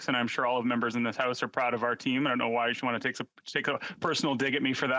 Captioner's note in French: voix de l'interprète